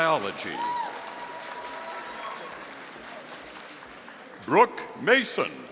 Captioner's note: audience applauding